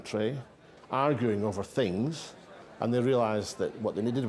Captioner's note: clinking glasses, hum of voices